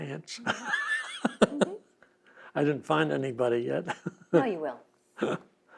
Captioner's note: laughs